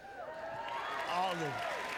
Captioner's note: applause